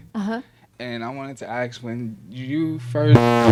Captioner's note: microphone buzzes